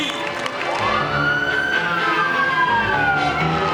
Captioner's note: siren screaming